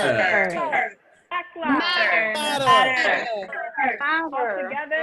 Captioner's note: chanting continues and overlaps